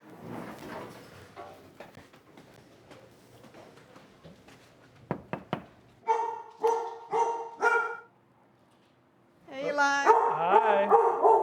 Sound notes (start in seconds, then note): 5.1 knocking; 6.0 dog barking